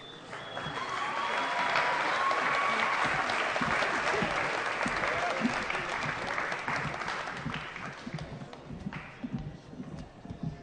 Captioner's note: applause